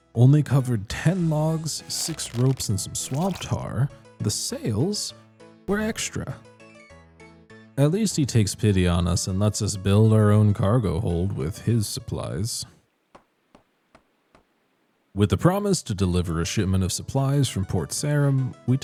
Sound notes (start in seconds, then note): 13.1 99 construction hammer strikes